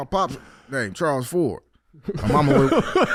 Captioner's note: laughing